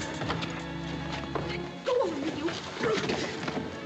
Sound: grunting

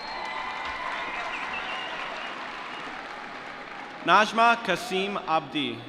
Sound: cheering

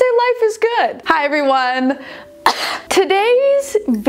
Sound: coughs

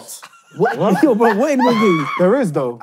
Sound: laughing

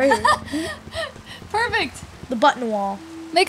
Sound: laughs

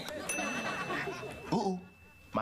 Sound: timer dings

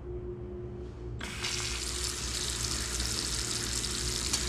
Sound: faucet turns on

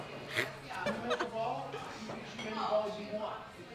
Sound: laughter

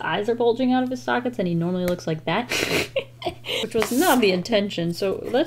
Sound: laughs

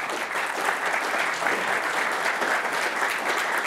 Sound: applause

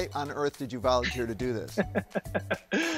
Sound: laughing

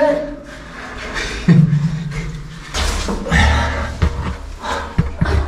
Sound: laughs

